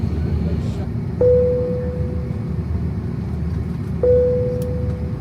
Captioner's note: alert pings